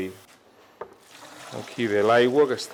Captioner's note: water pouring